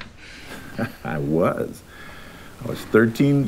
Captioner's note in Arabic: يضحك